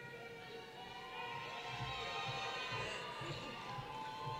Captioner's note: cheering